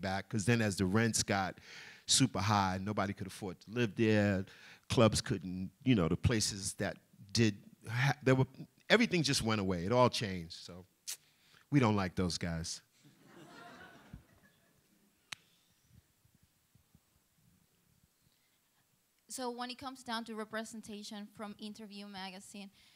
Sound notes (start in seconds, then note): 13.0 laughter